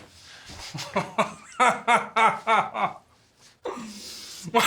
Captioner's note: nazi laughing